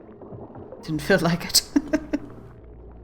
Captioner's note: laughs